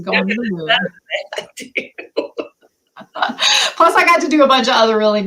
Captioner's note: laughter